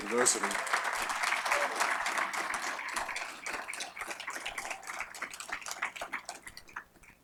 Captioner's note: applause